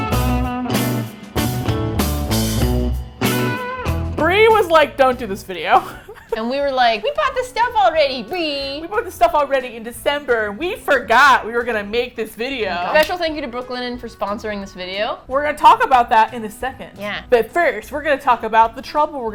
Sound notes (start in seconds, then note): 0.2 groovy Music; 5.6 laughs; 6.6 high voice